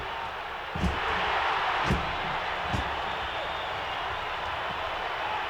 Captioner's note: audience roaring